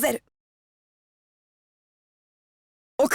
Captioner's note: silence